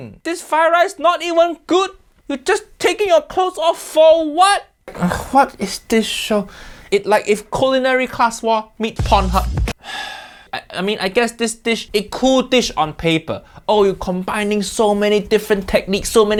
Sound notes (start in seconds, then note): 9.0 bass music; 9.8 Uncle Roger sighs